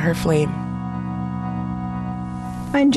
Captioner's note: soundbite of archived recording